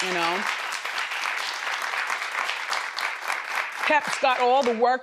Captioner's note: crowd applauding